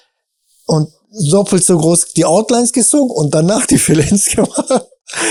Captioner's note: chuckles